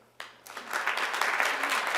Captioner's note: applause